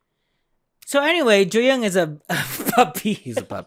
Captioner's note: laughs